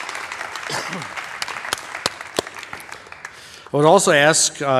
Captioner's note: applause